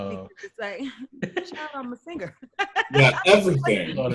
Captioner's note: loudly laughs